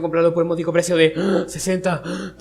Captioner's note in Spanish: respirar